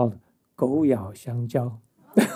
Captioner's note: speaking chinese